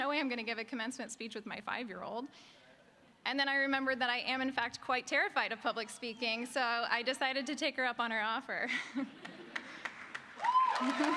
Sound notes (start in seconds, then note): 9.2 applause